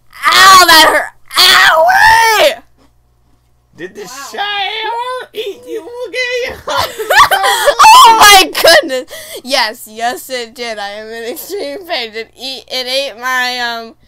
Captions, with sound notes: Ow, that hurt. OOW-WHEE! -Wow. -Did the shower eat you again? [Laughter] -Oh my goodness! Yes, yes it did, I am in extreme pain. It ate my um--